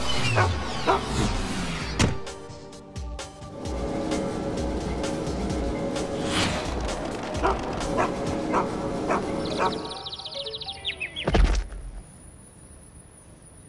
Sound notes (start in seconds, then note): 9.2 birds chirp